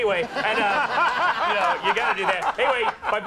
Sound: crowd laughs; Conan laughs

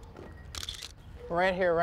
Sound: camera shutter clicks

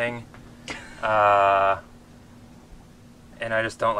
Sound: laughs

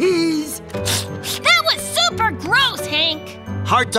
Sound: sniffling

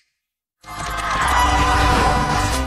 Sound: sirens wailing

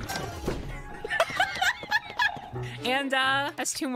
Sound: laughter

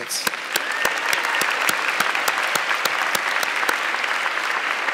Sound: audience clapping

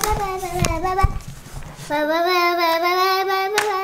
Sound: babbling

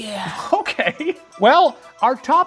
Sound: laughs

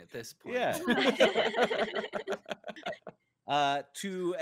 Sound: laughing

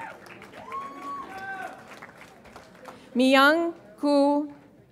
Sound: audience applauds and cheers

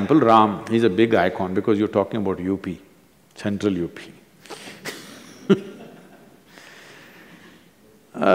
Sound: few laugh

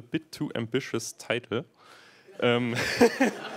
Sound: laughter

